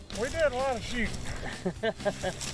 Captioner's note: laughing